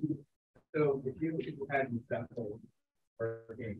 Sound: speaking faintly

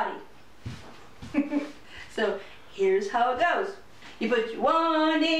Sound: chuckles

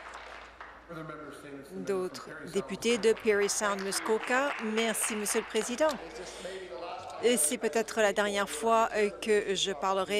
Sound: applause

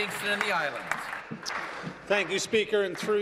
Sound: applause

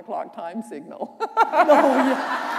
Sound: laughter

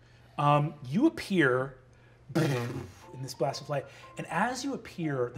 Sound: imitates magic whirring; gentle instrumental

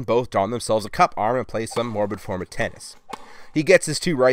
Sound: tennis ball bouncing

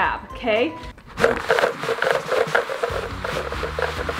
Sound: pieces rattling

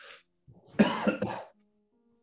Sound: watson coughs

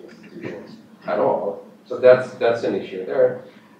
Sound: off mic

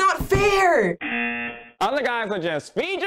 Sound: buzzer rings

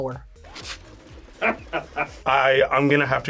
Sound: man laughs

